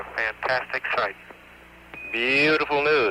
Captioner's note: radio transmission